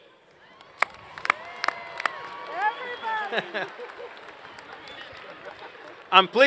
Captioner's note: applause